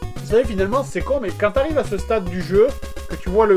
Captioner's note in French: none